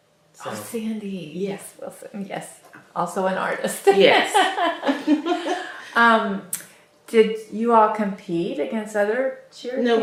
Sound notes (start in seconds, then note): 4.2 laughs